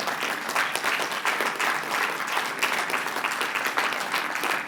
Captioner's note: applause